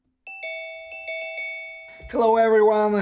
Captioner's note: bell ringing